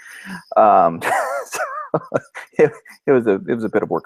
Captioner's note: laughing